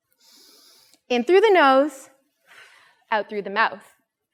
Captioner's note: breathes deeply